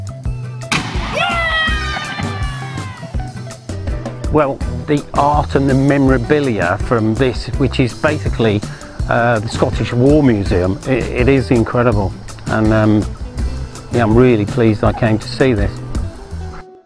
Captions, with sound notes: (shot blasts) - Yeah! - Well, the art and the memorabilia from this, which is basically the Scottish war museum, it is incredible. And yeah, I'm really pleased I came to see this.